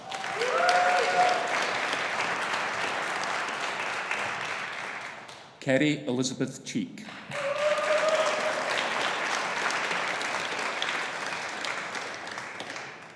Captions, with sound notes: (AUDIENCE APPLAUDING) (AUDIENCE CHEERING) Kerry Elizabeth Cheek. (AUDIENCE APPLAUDING) (AUDIENCE CHEERING)